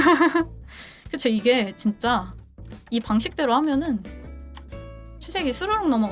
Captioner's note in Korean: 웃음